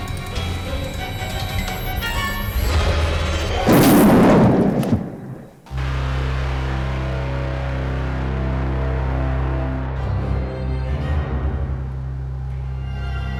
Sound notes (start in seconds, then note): 2.8 thunder rumbling; 11.0 dramatic music